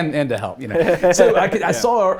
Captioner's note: laughs